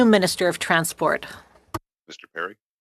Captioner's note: speaking French